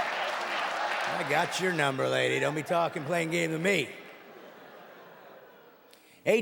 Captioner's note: audience laughing